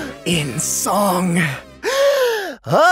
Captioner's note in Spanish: inhalación